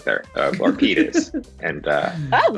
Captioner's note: Nick laughs